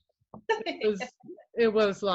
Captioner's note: laughs